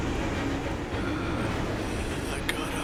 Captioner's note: laboured breathing